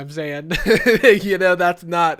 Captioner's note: laughing